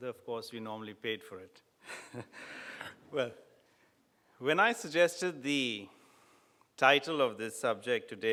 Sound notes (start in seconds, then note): 1.9 laughs